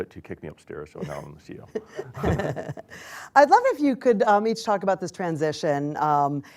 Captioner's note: laughter